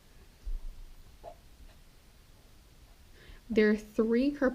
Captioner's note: pen scratching